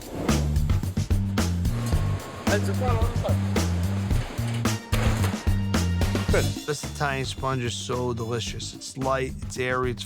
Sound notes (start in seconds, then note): 2.3 indistinct conversation